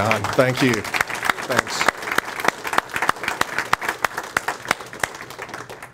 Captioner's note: audience applauds